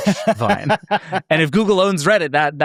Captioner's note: laughs